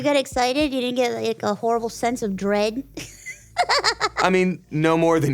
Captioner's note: laughs